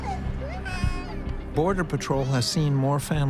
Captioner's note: baby crying